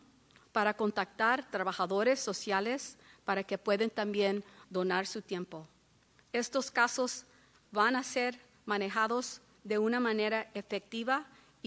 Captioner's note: speaking spanish